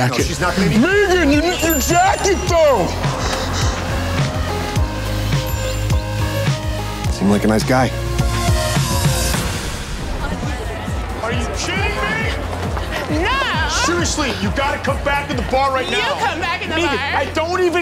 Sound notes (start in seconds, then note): 4.7 upbeat music; 10.0 people chattering